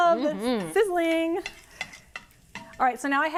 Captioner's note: pan sizzling